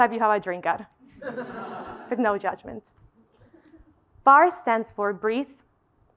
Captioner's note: laugh